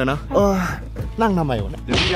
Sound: sighs

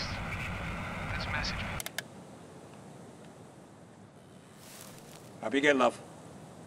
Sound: shuts radio off

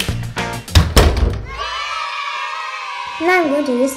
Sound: kids cheering

